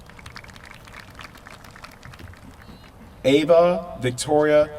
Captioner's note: applause